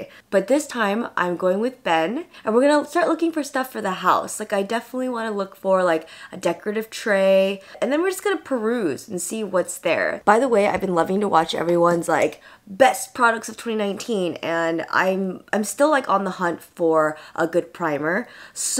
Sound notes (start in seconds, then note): none